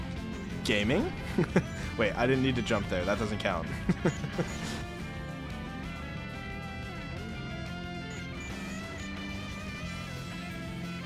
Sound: laughs

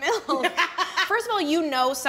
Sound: both laughing

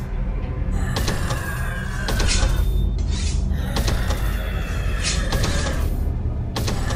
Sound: low growl

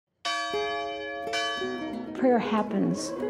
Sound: bell ringing

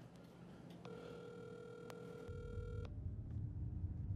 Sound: phone ringing

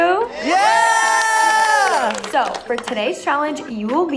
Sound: housemates cheering

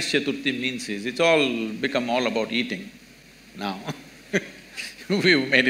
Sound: laughs

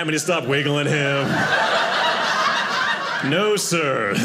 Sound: audience laughing

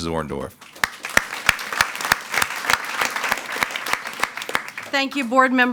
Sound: attendees clapping

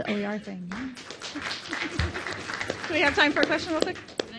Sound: audience applauds; giggles

